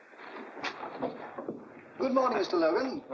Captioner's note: door opens